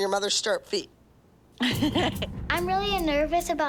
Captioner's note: laughs